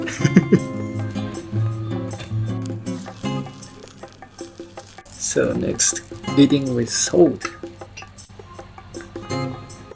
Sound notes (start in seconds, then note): 0.0 chuckles; 3.1 sizzling